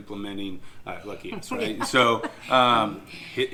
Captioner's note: laughing